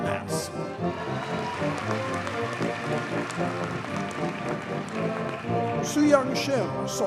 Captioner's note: audience cheers and applauds